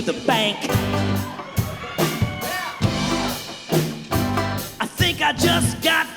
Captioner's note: crowd cheers